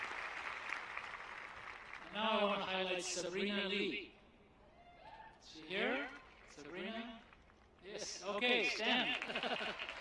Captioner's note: applause